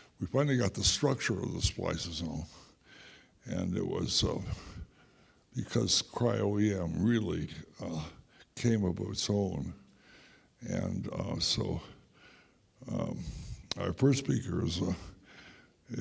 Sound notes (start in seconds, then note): none